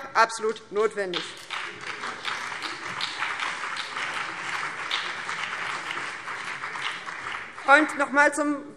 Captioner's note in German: Beifall BÜNDNIS 90/DIE GRÜNEN und vereinzelt CDU